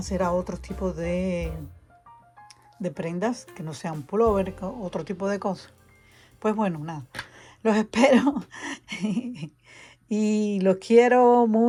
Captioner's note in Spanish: risas